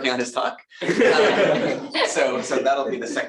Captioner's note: laughter